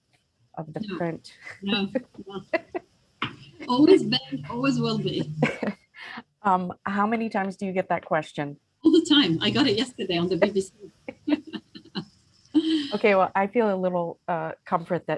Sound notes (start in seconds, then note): 2.2 both laugh; 12.3 laughs